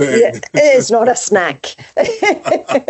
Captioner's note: laughs